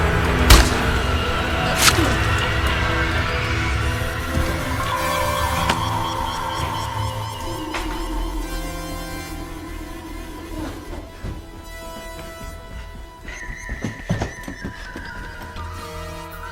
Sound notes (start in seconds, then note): 0.2 Henry grunting; 0.4 flesh crunching; 11.0 panting